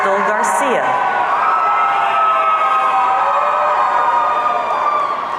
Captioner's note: audience cheering